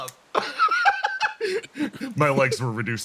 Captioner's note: laugh